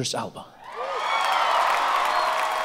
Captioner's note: audience cheering; audience clapping